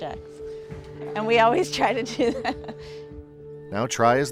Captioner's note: laughs